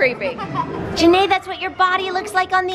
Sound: laughs

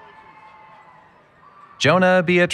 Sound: cheering

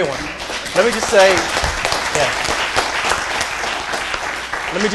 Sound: applause

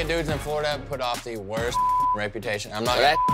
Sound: beep

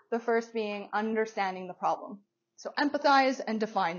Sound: none

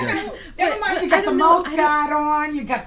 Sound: voiceover

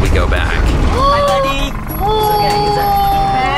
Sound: male Voice

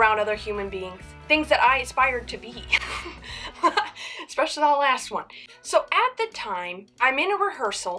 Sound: laughs

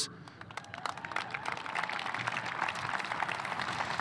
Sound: audience applauding

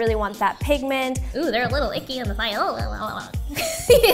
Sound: groans; laughs

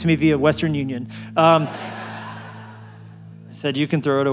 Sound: laugh

